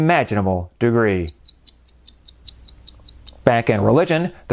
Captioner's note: clock ticking